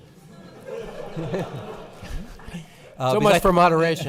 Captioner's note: laughing